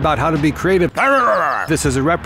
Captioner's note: growling